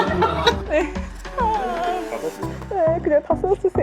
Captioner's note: laughter; tired sigh